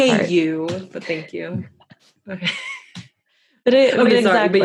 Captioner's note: both laugh